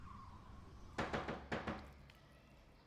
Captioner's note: knocking on the door